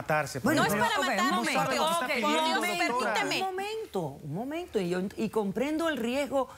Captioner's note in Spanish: Hablan al unísono